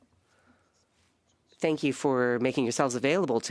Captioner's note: speaking in French